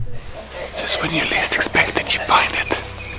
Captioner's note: whispering